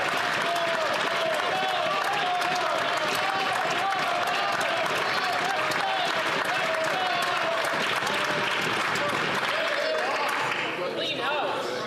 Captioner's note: chatter